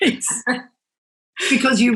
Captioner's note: laughing